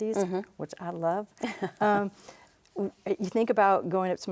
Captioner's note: laughs